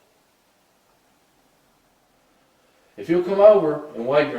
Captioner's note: silence